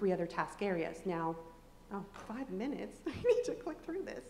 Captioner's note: laughs